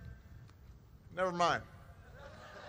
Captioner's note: laughter